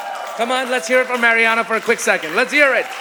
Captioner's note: audience applauding